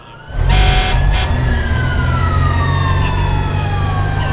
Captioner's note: sirens